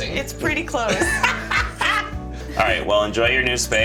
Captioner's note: laughing